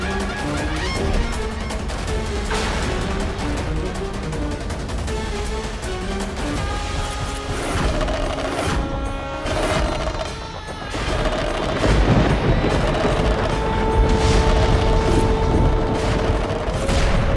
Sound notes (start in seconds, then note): 6.3 conch blows; 10.8 thundering